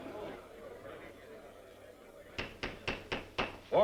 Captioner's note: gavel banging